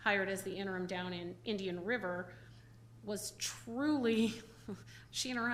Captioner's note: chuckles